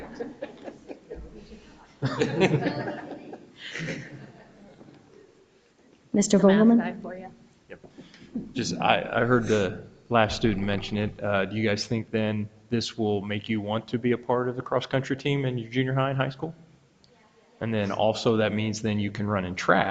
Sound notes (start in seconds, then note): 0.0 people chuckle; 1.0 students speak distantly